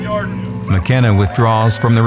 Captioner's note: applause